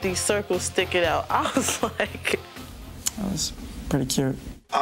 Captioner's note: laughing